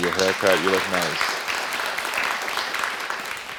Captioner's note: audience applauding